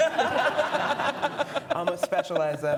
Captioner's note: audience laughing